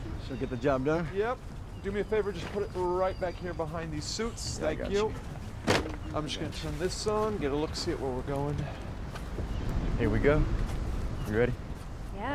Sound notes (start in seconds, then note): 5.6 gear clatters